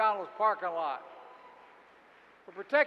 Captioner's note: applause